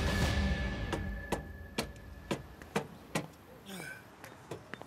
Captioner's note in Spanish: ruido al golpear